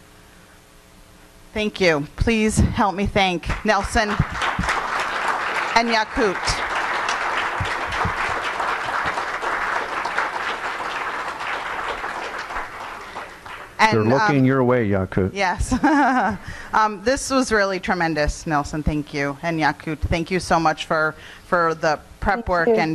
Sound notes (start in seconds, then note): 6.6 audience applauding; 15.7 chuckles